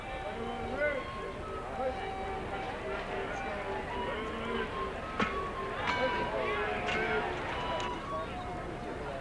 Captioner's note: circus barkers and hubbub